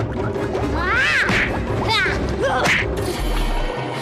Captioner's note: grunts